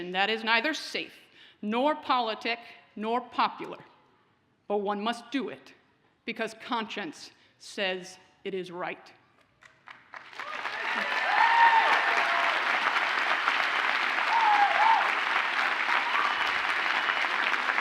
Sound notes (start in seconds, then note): 9.9 audience cheers and applauds